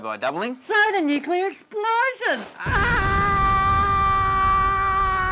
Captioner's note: screams